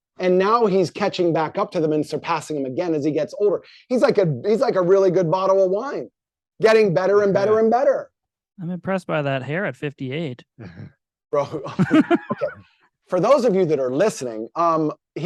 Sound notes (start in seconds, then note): 11.4 all chuckling